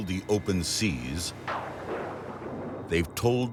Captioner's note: thunder crashes